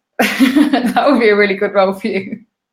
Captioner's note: laughing